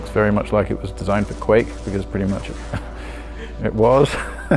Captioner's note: laughing